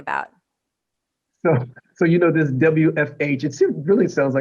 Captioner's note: laughter